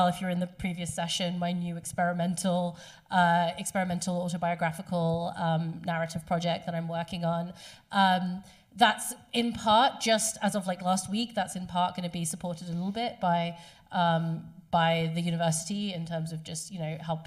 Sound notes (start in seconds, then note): none